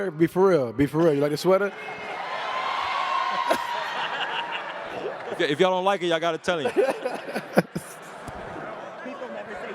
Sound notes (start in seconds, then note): 1.7 cheers and laughs